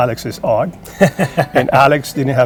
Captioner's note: laughing